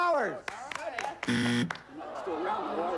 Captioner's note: buzzer